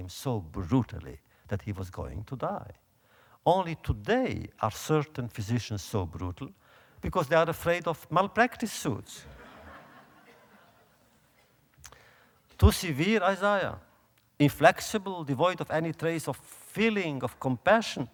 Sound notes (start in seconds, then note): 9.2 audience laughter